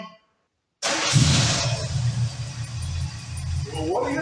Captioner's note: engine starts & idles